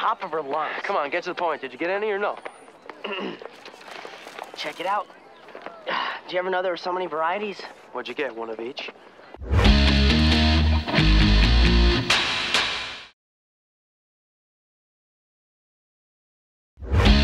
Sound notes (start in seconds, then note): 3.0 clears throat